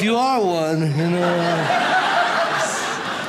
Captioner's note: audience laughs